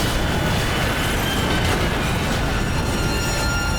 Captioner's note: screeching